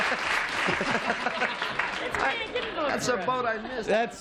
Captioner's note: applause